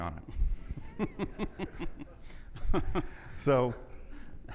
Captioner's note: people laughing